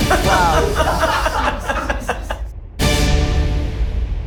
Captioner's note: group laughing; dramatic music